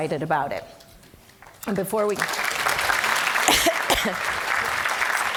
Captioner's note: audience clapping